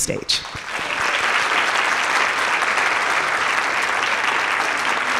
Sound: audience applauding

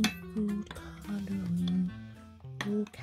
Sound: humming tune

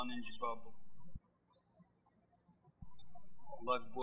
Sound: birds chirping

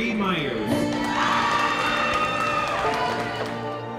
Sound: audience cheering

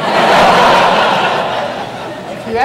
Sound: audience laughs

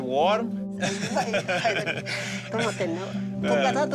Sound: speaking foreign language

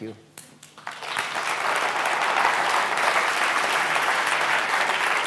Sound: applause

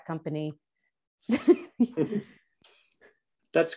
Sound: laughter

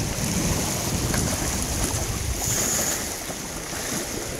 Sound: water splashing; line whirring

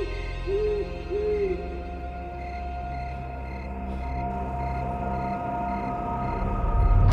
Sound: owls hoot; crickets chirp

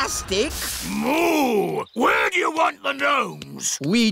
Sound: boos

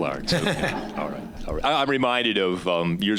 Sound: audience laughing

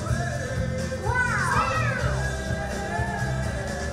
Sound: voiceover

